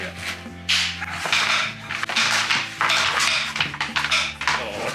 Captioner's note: cracking sound of wooden discs hitting the borders